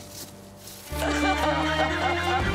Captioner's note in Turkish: Ağlıyor